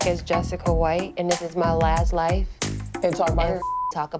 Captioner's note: beep